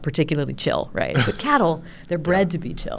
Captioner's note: chuckles